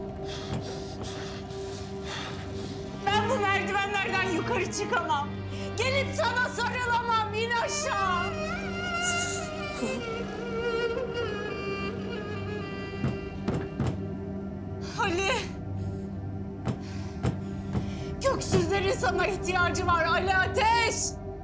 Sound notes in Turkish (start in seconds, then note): 0.1 Sinirle Nefes Alıp Veriyor; 9.1 Ağlıyor